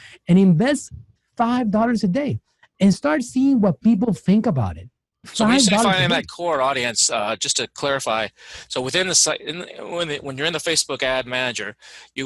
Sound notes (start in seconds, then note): 5.3 overlapping chatter